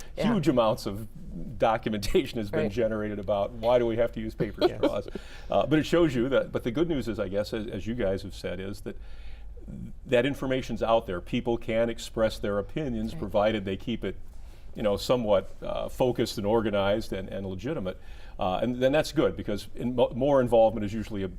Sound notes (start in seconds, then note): 4.4 laughs